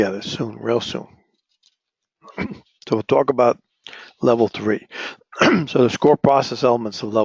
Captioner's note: cough